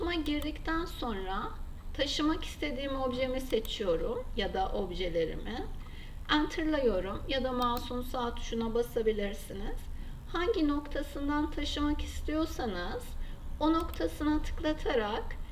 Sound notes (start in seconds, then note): 7.6 right mouse click